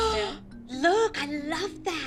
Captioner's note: gasp